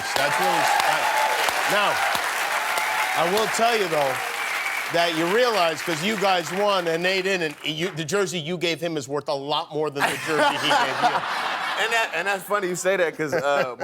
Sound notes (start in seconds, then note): 6.7 applause